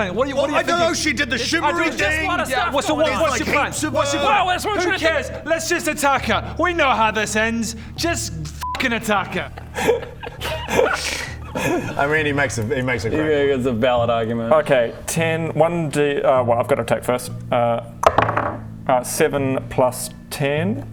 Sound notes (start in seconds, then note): 9.3 surprised laugh